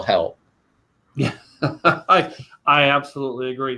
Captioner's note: laughs